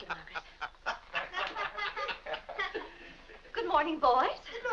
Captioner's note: boys and Mr. Day laughing